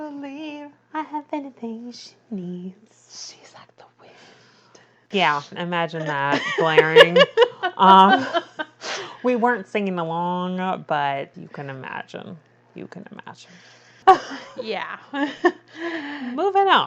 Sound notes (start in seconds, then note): 6.0 laughs